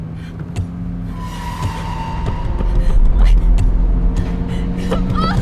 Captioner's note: tense screeching